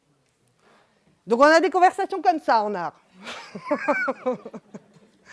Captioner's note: laughs